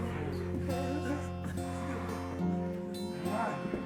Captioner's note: Sue whimpering